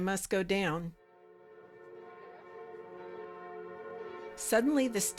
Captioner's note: bells ringing